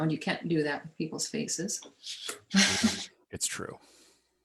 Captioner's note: chuckles